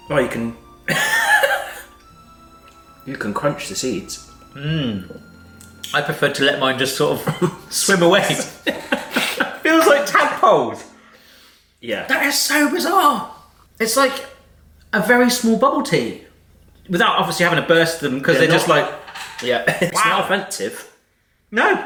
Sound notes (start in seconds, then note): 0.9 laughs; 7.1 laughing